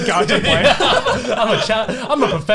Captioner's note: laughs